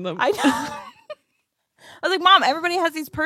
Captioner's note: laughs